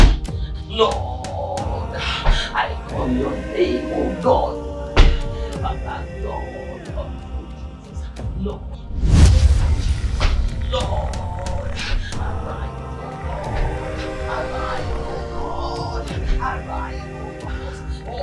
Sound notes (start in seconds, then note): 5.7 prayer in lower tones; 10.1 Mohuru growling as prayers continue